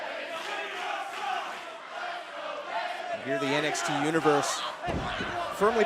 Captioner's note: fans chanting